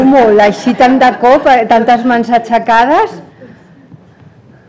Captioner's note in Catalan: riures